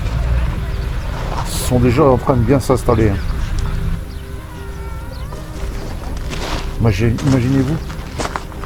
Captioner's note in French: cri